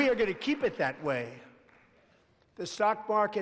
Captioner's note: applause